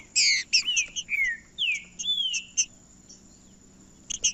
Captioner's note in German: trinca ferro cantando